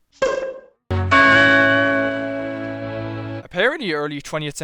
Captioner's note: hourly Chime